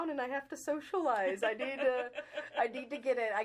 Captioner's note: laughing